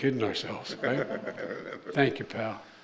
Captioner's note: laughter